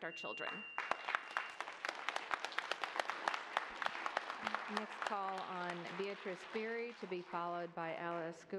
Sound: applause

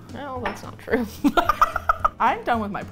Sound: laughs

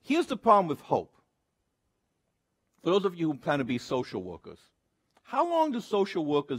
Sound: none

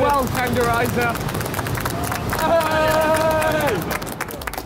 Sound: all cheering

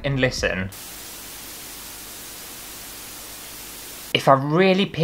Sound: static Sound

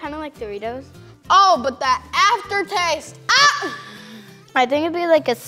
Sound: screams

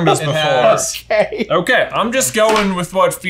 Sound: laughing

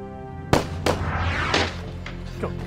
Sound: gunshots firing; dark tense music

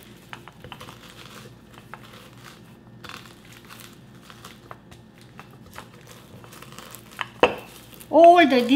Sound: crunching

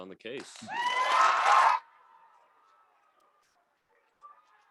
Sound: audience clapping

